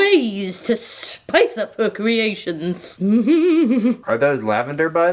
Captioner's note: hums